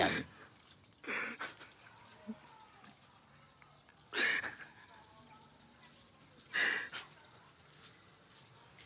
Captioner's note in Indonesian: terisak-isak